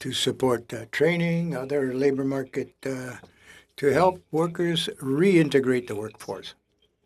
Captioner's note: speaking French